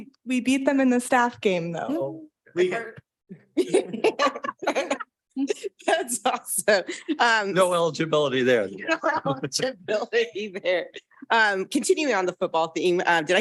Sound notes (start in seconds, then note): 3.5 laughs